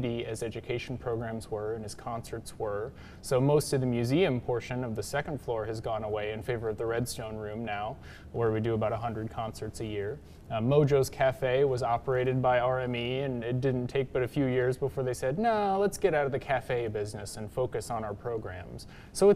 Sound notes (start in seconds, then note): none